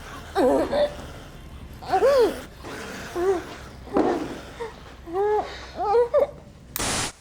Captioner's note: Kira breathing laboriously; creatures snarling; static whooshes